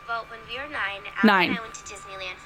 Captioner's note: voiceover